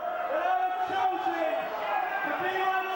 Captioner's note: crowd cheering